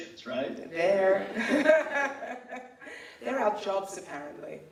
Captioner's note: laughs